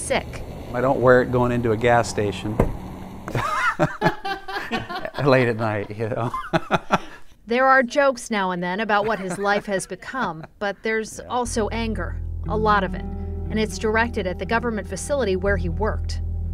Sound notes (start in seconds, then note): 3.3 laughing